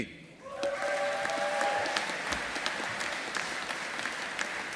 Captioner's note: audience applauding